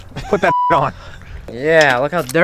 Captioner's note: beep